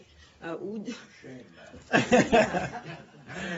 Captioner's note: laughter